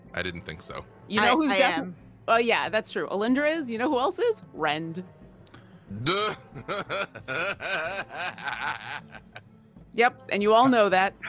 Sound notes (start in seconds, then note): 6.0 laughs